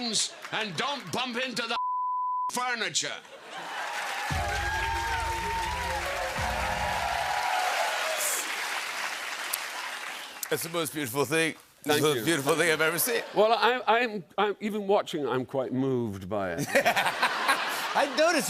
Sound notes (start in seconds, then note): 3.1 cheers and applause; 16.5 laughter